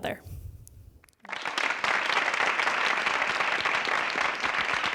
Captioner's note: applause